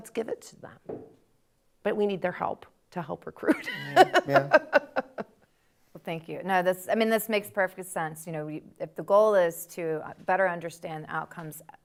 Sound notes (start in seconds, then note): 3.6 laughs